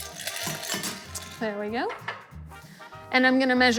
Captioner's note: glass clinking; ice clattering